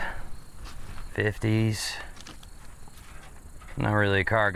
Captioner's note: footsteps crunching